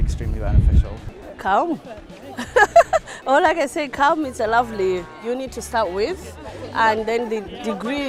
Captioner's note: laughing